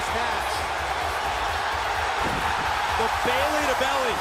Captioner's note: crowd cheering